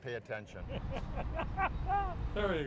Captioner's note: laughs